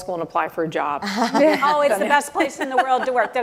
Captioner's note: laughter